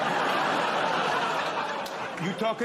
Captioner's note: laughter